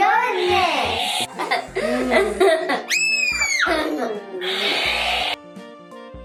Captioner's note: laughing